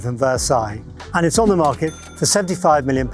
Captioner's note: register rings